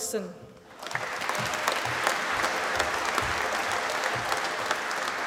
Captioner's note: applause